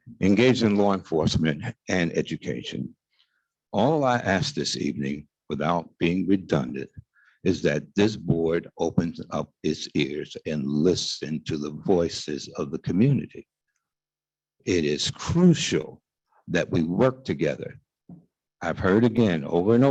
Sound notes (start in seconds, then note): none